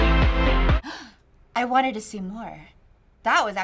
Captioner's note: gasps